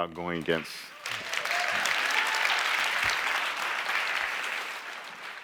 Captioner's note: clapping and cheering